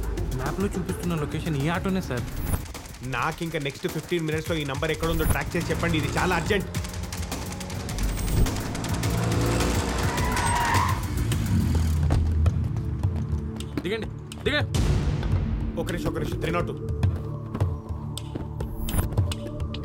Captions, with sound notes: This is the auto being shown on the map, sir. I want the exact details in the next 15 minutes on a priority. It's urgent. (Brakes squeal) Get down... Get down... Just a minute, 302